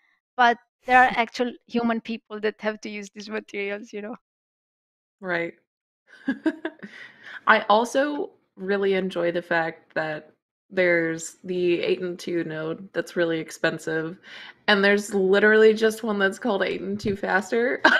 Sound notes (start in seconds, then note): 5.5 laughs